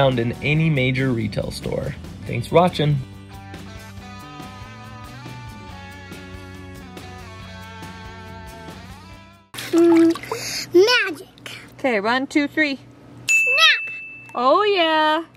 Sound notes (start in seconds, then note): 3.6 guitar music; 13.3 ding